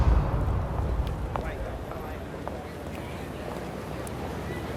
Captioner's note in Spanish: Bullicio